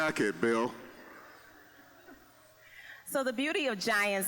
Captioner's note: audience laughing